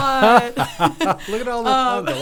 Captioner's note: both laughing